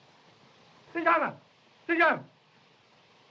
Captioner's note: foreign language